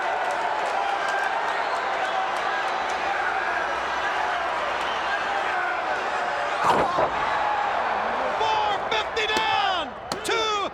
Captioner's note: crowd chatter